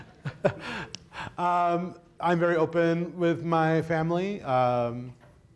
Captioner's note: laughs